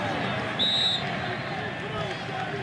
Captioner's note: whistle